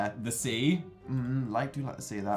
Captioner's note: none